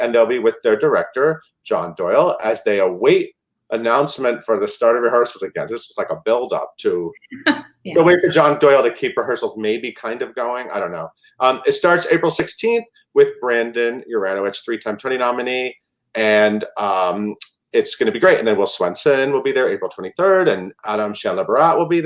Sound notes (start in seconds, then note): 7.8 giggle